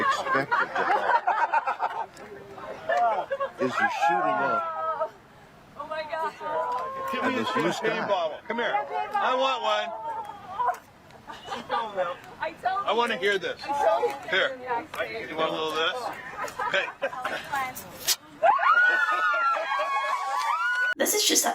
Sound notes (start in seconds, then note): 17.4 pop